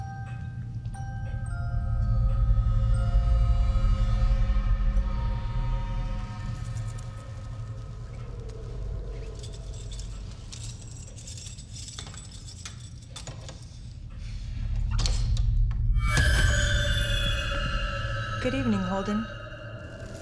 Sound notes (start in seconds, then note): 0.1 gentle music; 2.8 tense music; 11.1 keys clattering; 15.9 tense music